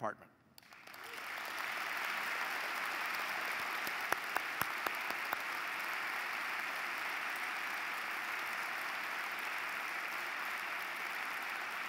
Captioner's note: applause